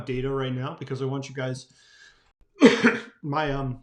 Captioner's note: coughs